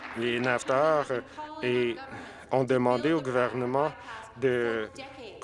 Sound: some Applause

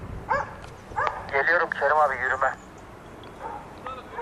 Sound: radio

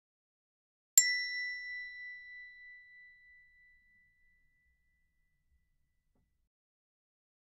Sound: sound hand bell

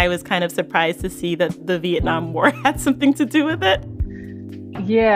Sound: chuckles

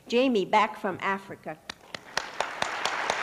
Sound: applause

